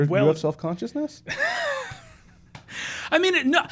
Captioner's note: soft laughs